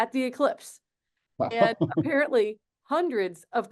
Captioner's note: laughs